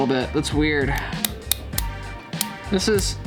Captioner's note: lock clicking